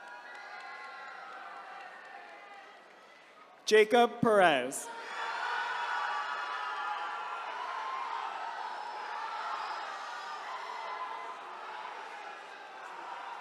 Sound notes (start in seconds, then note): 0.0 attendees cheering; 4.9 attendees cheering